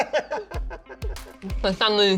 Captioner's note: laughs